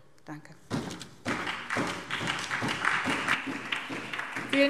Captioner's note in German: Beifall SPD und vereinzelt Freie Demokraten